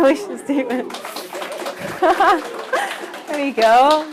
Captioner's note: applause